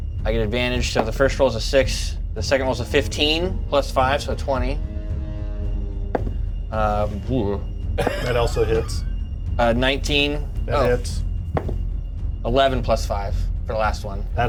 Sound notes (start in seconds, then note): 0.0 dies thud; 6.1 die thuds